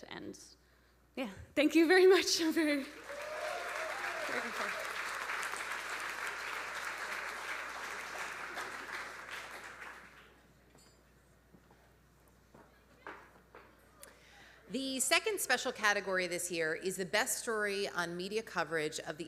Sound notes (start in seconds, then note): 5.0 audience applauding; 5.0 audience cheering